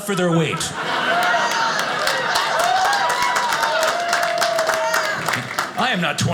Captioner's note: audience cheers